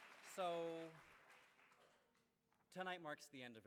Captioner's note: applause